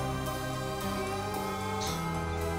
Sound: slurps; gulps

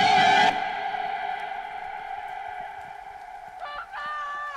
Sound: rain falling

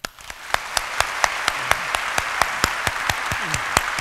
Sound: applause

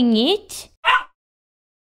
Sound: bark!

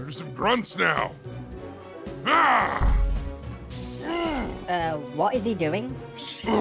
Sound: grunt noises

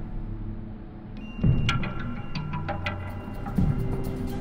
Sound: heavy footsteps

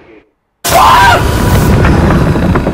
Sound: screams

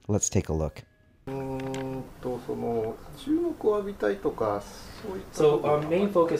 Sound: speaks in Japanese

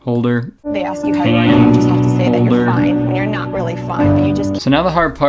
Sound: distant female voice

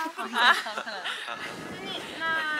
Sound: laughing out loud

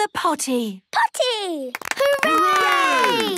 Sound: cheering, clapping

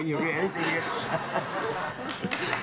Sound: cheers and applause

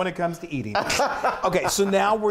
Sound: laughs

